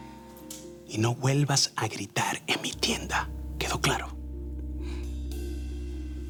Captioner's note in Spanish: Voz baja